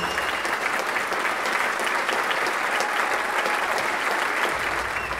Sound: audience applauding

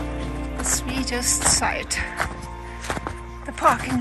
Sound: sounds of footsteps

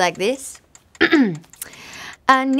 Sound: clearing throat

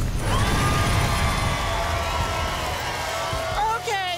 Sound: audience applause

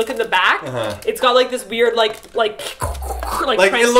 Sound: Transformers sounds

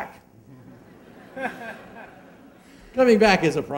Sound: laughing

